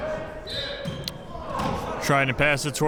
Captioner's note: whistle blows